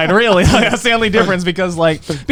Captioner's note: chuckling